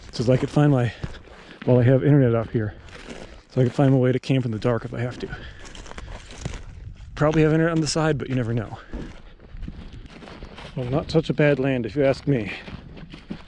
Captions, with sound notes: so that I could find my-- while I have internet up here-- so I could find my way to camp in the dark, if I have to. Probably have internet on the side, but you never know. (gravel crunching) Well, not such a bad land if you ask me.